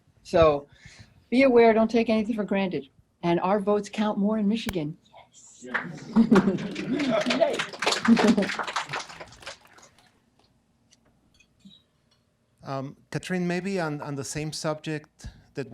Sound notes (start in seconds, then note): 8.9 laughing and clapping